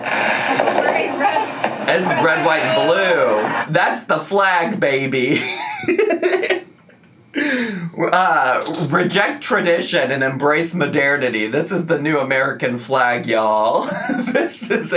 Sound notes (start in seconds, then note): 5.3 laughs